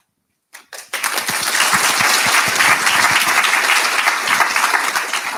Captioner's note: audience applauding